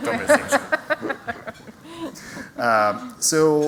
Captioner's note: laughter